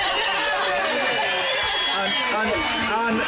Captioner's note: cheers